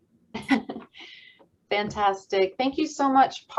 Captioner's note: giggles